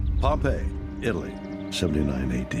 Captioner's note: birds chirping